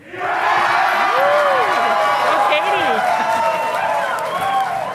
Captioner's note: audience applauding